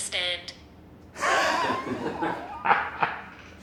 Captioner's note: laughs